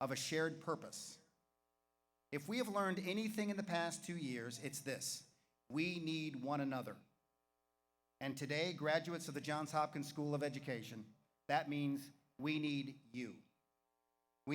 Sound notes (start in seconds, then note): none